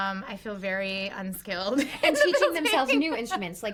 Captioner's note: laughs